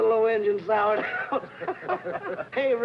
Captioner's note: happy laughing